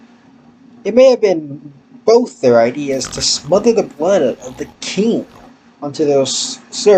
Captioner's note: starts up a car